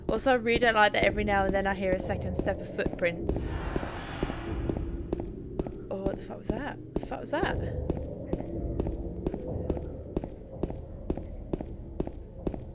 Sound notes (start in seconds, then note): 3.5 game - Weird shriek noise